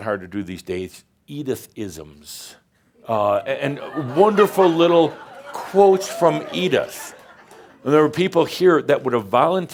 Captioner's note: laughter